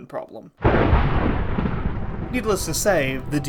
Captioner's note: thunder